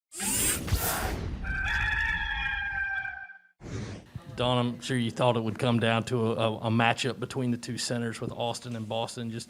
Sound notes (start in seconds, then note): 0.2 machines whirring; 1.4 rooster crowing